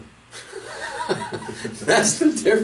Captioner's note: laughing